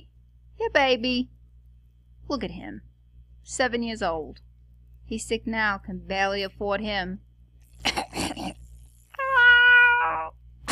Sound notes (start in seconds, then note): 7.8 coughs; 9.1 meow